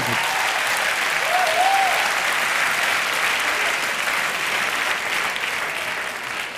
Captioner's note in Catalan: Aplaudiments